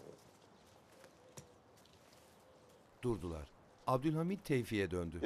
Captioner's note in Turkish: Ayak sesi